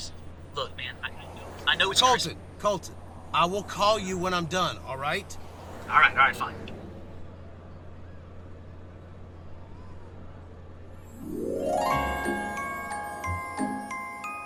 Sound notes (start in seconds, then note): 7.3 pedestrians chattering; 11.0 bright holiday music